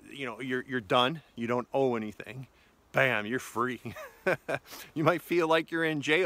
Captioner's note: laughs